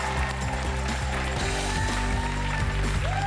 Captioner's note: cheers and applause